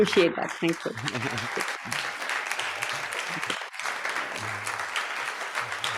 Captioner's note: audience clapping